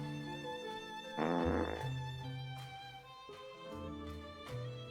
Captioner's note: Henrietta farting